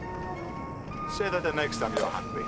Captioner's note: wooden clatter